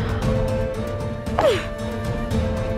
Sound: grunting

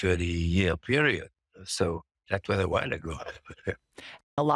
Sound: laughs

